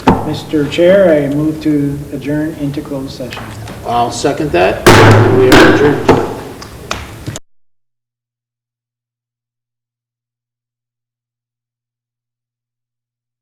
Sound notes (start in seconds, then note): 4.8 bangs gavel loudly